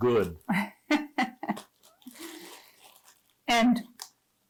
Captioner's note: laughing